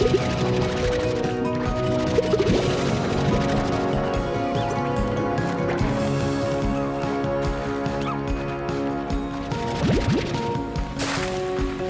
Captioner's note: bubble sounds